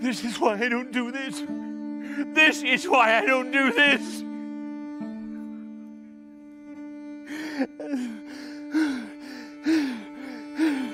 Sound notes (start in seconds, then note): 7.3 poet crying hysterically